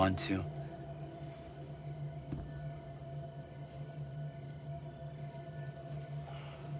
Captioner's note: crickets chirping; tense music